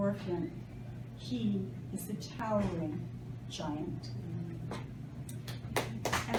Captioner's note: applause